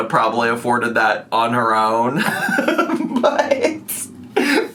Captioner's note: laughs